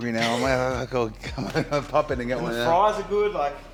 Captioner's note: laugh